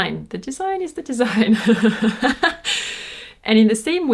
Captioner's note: laughs